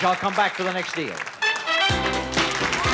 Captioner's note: theme music playing; cheering